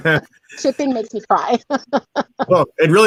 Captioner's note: laughs